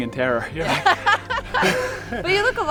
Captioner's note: laughing